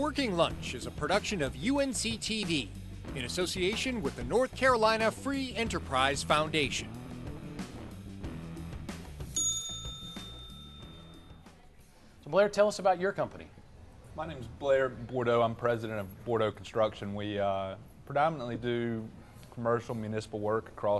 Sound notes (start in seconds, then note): 7.8 easy-going rock music; 9.3 bell ringing